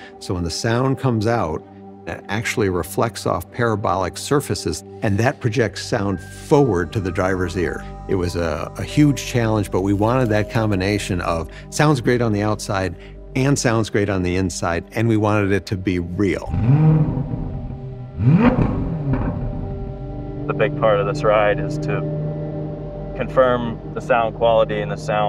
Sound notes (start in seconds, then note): 16.4 engine sounds